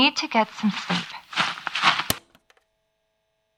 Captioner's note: rustling; click